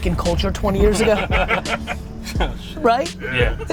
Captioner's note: laughter